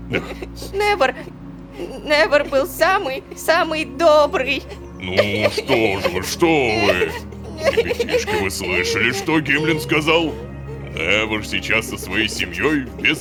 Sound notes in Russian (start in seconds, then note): 6.9 плачут; 10.1 плачут; 12.6 плачут